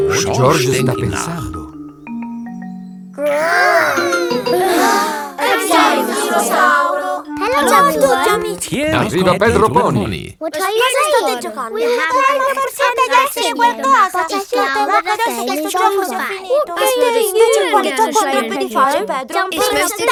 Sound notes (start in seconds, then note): 3.1 all sigh; 3.2 growls